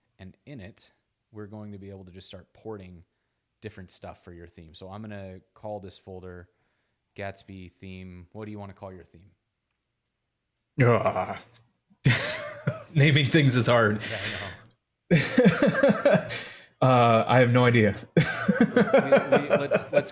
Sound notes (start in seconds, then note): 10.8 groans; 10.8 chuckles; 15.1 chuckling; 18.1 laughs